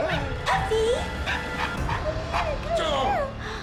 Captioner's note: mark whimpers; yapping